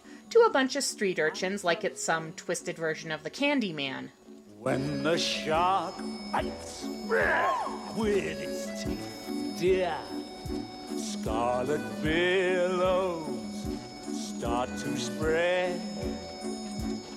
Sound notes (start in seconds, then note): 5.5 singing; 8.1 growls